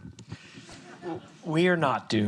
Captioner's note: audience laughs